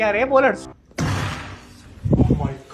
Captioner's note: thuds